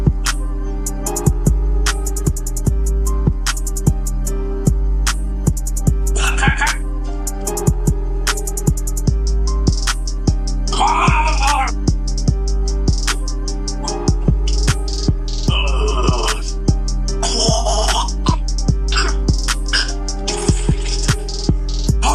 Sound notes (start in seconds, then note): 6.2 dramatic coughing; 10.5 dramatic gargling; 15.5 dramatic groaning; 17.1 dramatic snorting